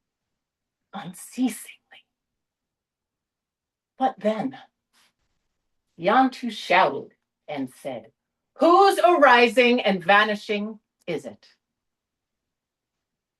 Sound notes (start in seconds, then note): none